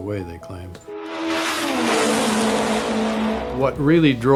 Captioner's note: care engine roaring